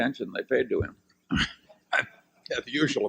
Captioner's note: Buffett laughs